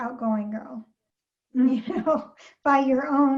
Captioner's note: chuckles